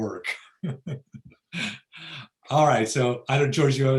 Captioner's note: laughs